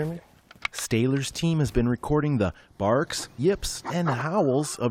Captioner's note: voice-over